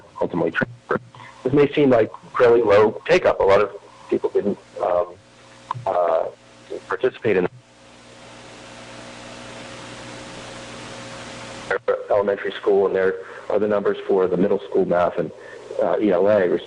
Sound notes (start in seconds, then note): 7.5 audio cutting in/out